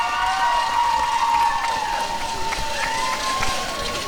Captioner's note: applause and cheering